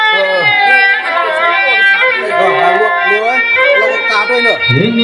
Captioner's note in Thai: ปรบมือ